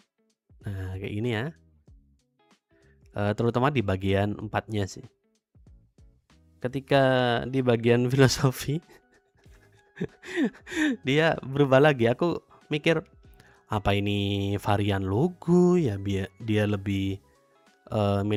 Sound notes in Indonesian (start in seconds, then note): 9.1 tertawa; 10.2 terkesiap